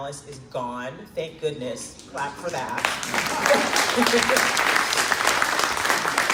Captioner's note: crowd claps